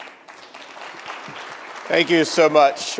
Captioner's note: applause